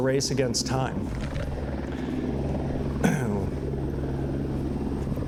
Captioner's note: helicopter sound